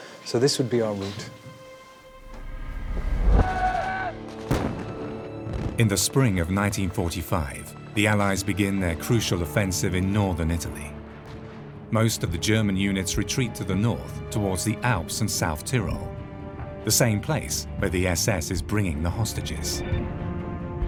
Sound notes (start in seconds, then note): 3.4 soldiers yell; 4.2 explosions pop